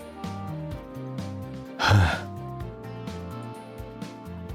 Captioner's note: sigh